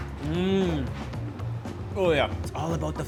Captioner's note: moans